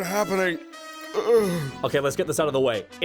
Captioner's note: yawn